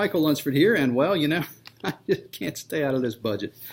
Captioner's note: laughs